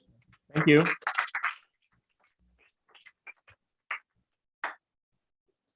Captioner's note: applause